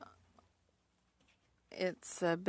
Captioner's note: speaking French